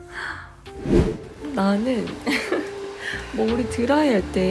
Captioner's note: hehehe